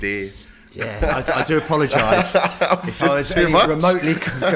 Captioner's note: laughing